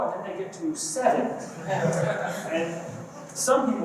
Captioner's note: laughter